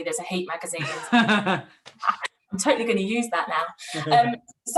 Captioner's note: laughs